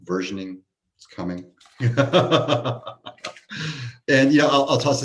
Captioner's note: laughs